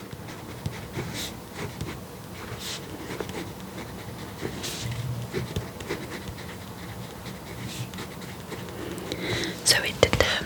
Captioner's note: writing